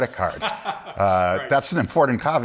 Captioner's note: laughs